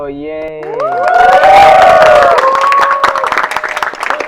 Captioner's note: cheers